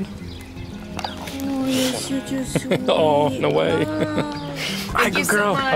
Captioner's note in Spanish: Risas